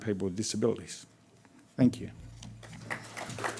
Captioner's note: applause